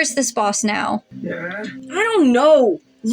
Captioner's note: Mr. Invisible Groans